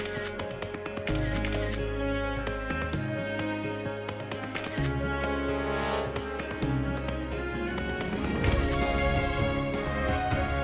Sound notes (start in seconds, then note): 1.1 photo clicking